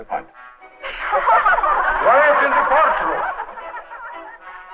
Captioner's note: all laughing